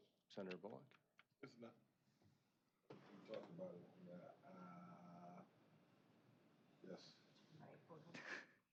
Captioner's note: indistinct chatter